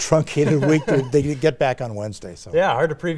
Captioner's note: laughs